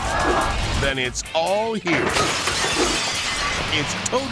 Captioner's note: glass breaking